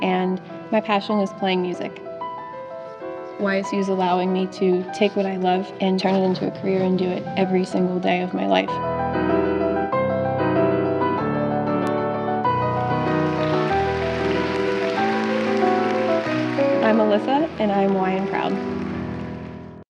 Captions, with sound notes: and my passion is playing music. YSU's allowing me to take what I love and turn it into a career and do it every single day of my life. (dramatic music) (audience claps) I'm Alyssa and I'm Y and proud.